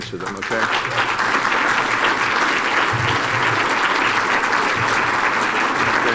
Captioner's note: applause